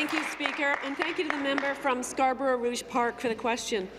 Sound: applause

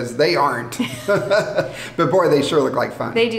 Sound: both laughing

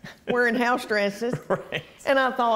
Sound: laughter

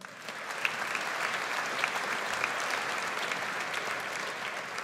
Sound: audience applauds

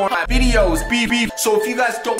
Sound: beep Beep

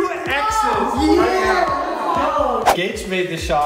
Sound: boys shouting

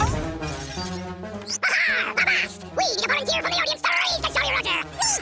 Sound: speaking fast forward

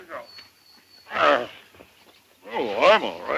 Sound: Jinglebob groans

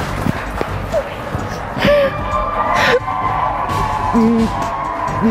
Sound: cries

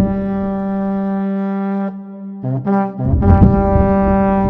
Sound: distant thunder

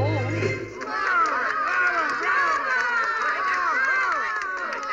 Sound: cheering and applause

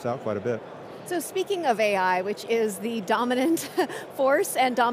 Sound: chuckles

